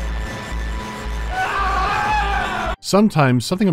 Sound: scream of terror

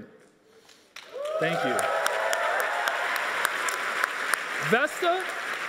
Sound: audience applauding

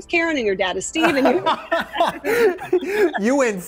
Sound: laughter

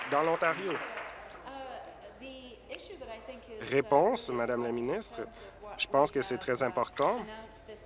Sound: applause

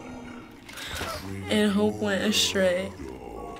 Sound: Ori whimpers; gasps

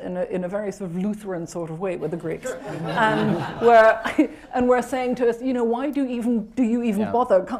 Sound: laughter

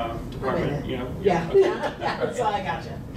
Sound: laughing

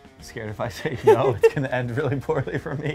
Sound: woman laughs; laughs

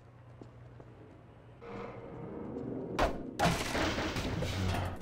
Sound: sirens in the distance

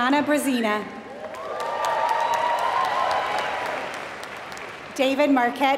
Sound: applause

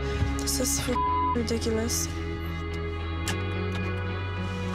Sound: beep

